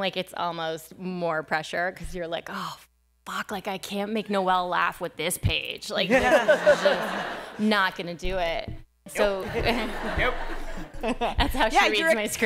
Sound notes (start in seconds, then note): 6.1 laughter